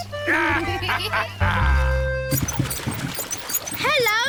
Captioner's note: both giggle